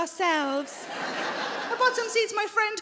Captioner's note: audience laughing